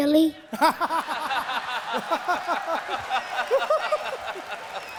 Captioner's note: laughter; cheering and applause